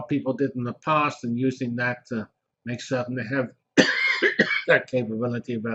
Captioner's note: cough